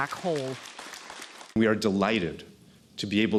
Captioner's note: applause